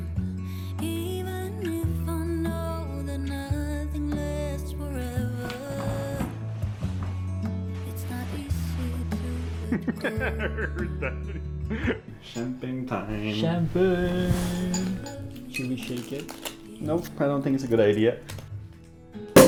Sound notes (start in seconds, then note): 10.0 laughs; 18.2 cork pops